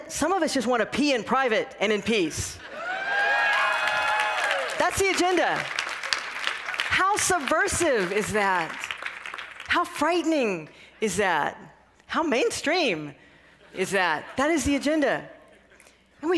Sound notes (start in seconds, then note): 2.7 cheering and applause